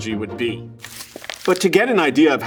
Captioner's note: paper rustling